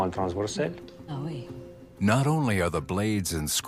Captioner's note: responds in French; narrator in English